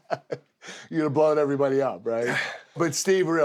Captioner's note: laugh